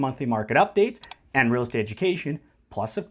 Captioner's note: mouse clicks